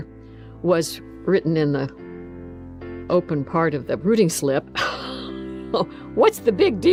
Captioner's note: laughs